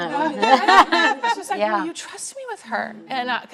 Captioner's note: laughing